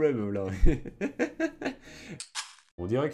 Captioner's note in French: Rires